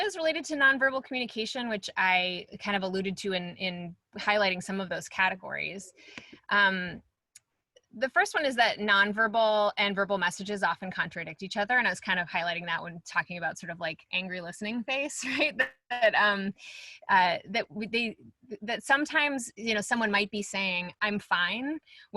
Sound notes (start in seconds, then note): 15.2 chuckles